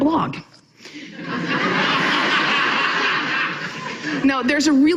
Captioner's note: audience laughing